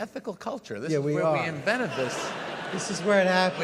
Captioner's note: audience laughs